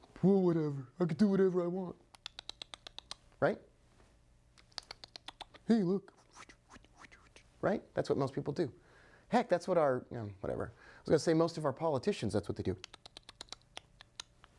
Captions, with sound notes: Woo, whatever, I can do whatever I want. (clicking) Right? (clicking) Hey, look! Right, that's what most people do. Heck, that's what our, whatever, I was gonna say, most of our politicians, that's what they do. (clicking)